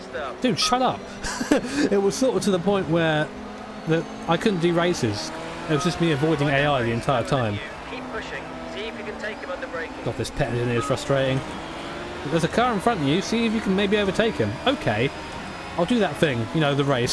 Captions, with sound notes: DUDE SHUT UPPP! *Laughter ensues* It was sort of to the point where that I couldn't do races, it was me avoiding the AI the entire time.. This crew chief is frustrating.. ''If there's a car in front you see you can maybe overtake him, okay?'' *Mockingly*.. I'll do that thing.. you know the race.